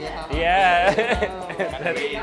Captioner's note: laughing